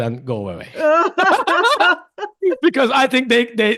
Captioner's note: laughs